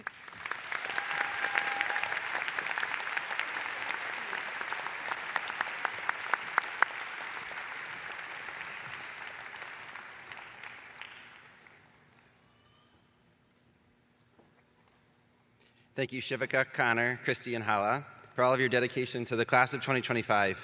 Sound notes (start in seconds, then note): 3.3 applause